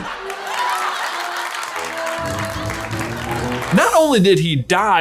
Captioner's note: crowd applauding